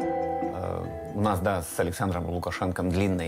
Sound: Russian spoken audio

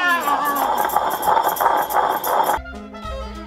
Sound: grinding stone hissing

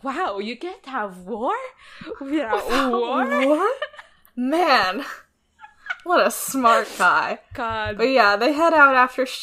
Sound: laughs

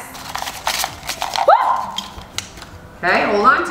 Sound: shouts

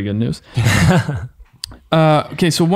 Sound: men laughing

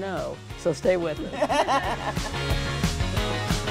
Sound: all laughing; happy upbeat music

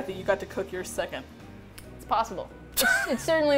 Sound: laughs

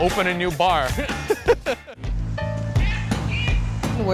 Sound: laughs

